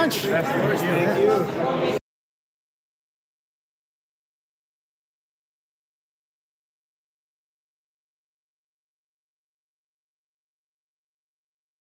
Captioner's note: no audio